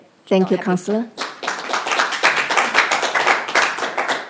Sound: clapping

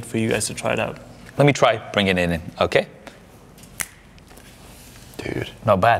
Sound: snaps fingers

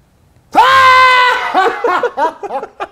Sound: laughs

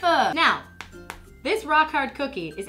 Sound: tapping

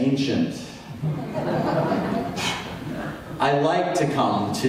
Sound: audience laughs

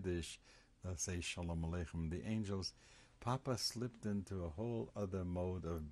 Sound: hebrew

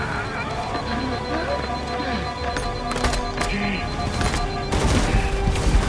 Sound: HUD alarm beeps

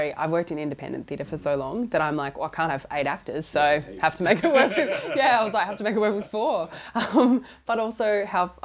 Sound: laughs

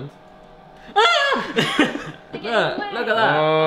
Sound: screams

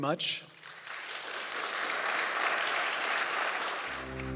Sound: audience applauding; bright inquisitive music

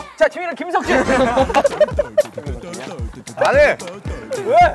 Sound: laughing his head off

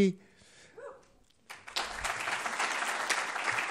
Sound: applause

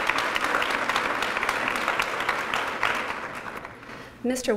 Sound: applause

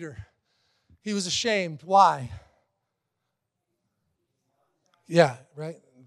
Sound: congregants murmur

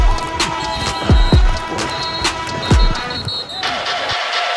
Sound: whistle blowing

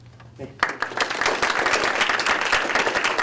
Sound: audience applause

